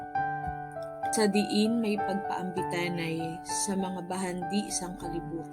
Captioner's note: woman praying in Hiligaynon